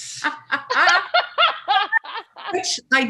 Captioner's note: laughs